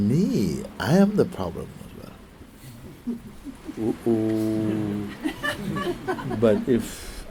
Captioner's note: laughter